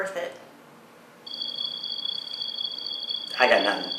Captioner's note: trilling